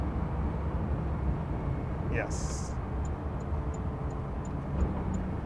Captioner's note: turn signal beeping